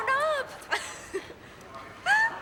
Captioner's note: laughs